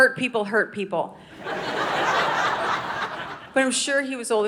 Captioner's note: audience laughing